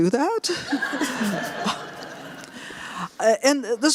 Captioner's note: laughter